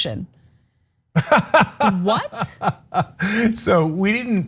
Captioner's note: laugh